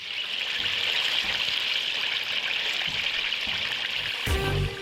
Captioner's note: sizzling cooking oil